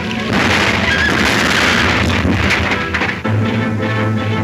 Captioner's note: explosion booming; tense music